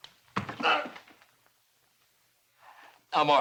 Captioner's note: groans